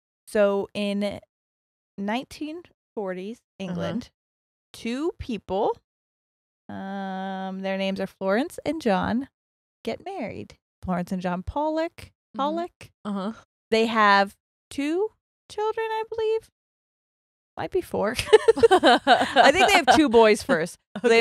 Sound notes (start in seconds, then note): 18.2 both laugh